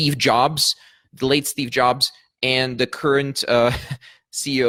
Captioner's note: chuckles